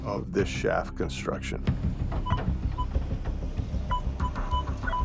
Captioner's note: metal detector beeping